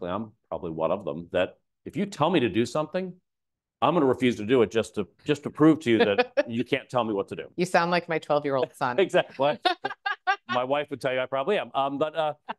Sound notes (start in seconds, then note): 8.6 laughing; 9.3 laughs